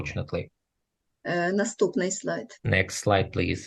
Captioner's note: foreign Language